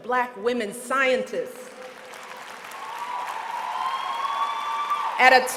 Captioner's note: applause